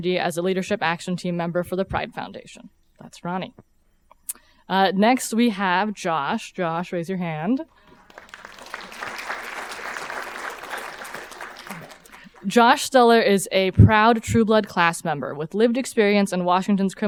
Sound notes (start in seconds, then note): 7.8 audience applauding